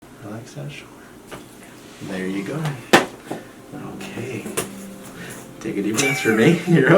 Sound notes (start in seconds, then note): 1.3 neck snapping; 5.9 patient laughs